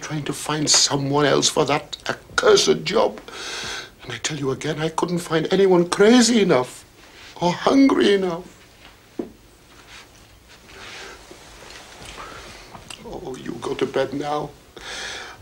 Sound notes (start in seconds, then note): none